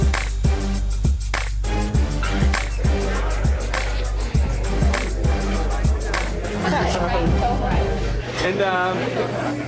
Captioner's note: crowd chatter